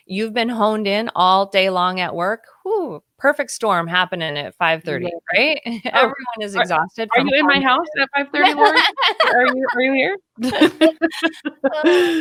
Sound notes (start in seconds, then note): 8.4 laughing